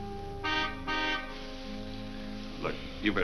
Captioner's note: car horn honks